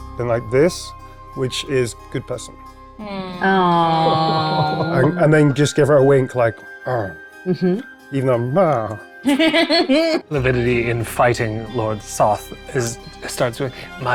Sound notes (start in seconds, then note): 3.0 players cooing; 10.1 groans; 10.9 laughing